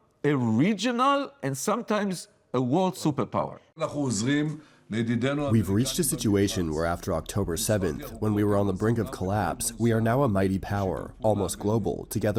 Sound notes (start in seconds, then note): 3.7 Speaking Hebrew